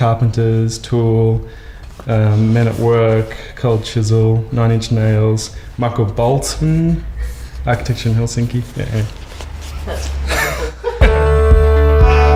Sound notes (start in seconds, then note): 9.8 laughs; 11.0 upbeat synthwave music